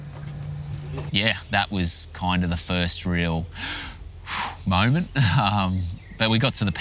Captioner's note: deep breath